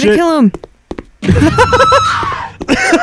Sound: crack up; cackles

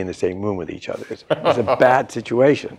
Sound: laughter

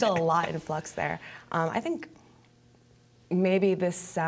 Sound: laughter

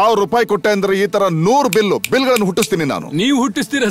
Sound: snaps finger

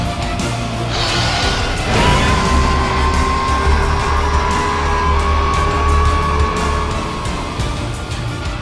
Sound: intense music; Scorpius roaring

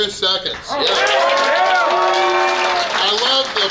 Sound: people clap and cheer

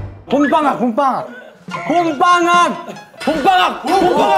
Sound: shouting as hard as he can

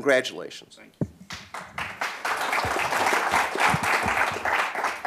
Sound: applause

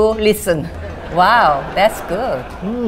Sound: audience laughs

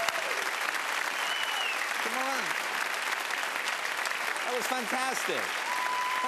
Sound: cheers and applause

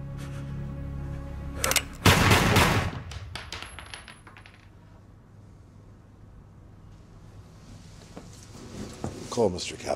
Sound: shell casing rattles

